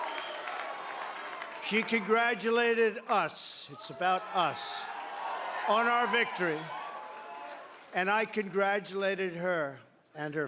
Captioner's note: cheering